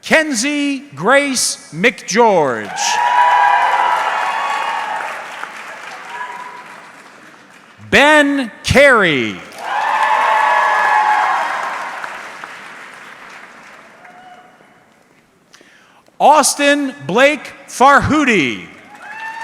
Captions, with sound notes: Kenzie Grace McGeorge. (audience cheering) Ben Carey. (audience cheering) Austin Blake Farhoodi.